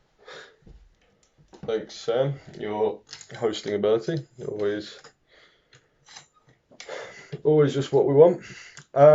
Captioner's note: sighs